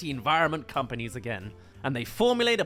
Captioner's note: shouting